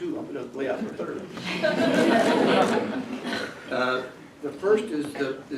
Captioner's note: laughter